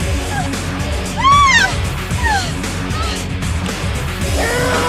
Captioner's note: Sheila screaming; Michelle screams and gasps; monster roar